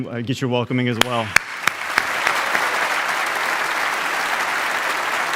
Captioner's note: audience applauding